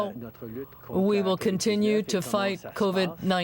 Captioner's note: speaking French